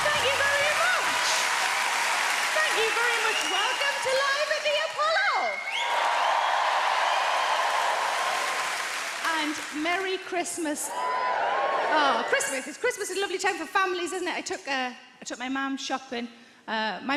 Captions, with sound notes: Thank you very much. Thank you very much. Welcome to live at the Apollo (audience applauds) and Merry Christmas. Oh Christmas, Christmas is a lovely time for families, isn't it? I took uh, I took my mom shopping.